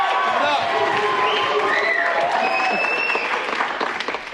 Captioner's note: Aplausos, vivas